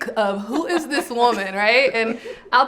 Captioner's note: group laughs